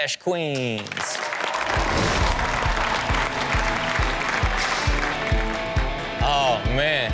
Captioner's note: crowd cheers; rock music plays